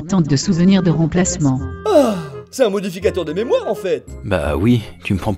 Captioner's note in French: soupir